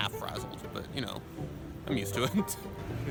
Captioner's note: laughs